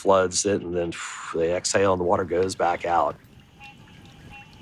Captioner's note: water noise